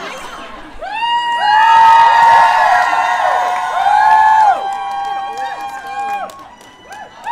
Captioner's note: cheers and applause